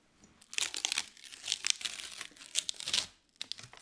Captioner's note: paper crinkles